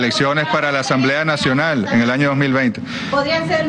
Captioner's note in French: plusieurs voix